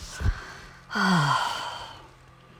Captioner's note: sigh of exhaustion